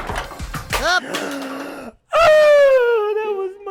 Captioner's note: cartoon Voice; gasping